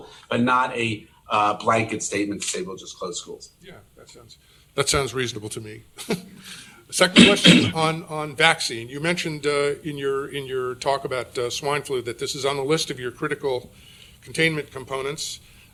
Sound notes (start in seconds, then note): 6.0 chuckles